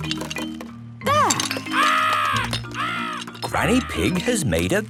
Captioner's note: seagulls cries